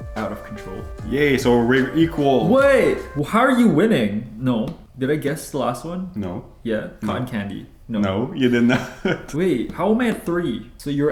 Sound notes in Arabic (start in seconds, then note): 8.4 أقصى ضحكات خافتة